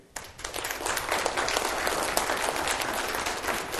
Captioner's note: applause